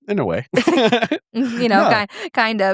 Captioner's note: both laughing